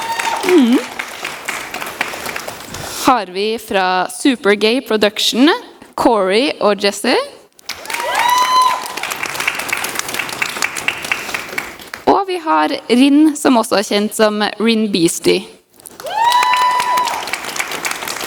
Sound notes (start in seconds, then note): 0.0 applause; 7.7 cheers and applause; 15.9 more cheers and applause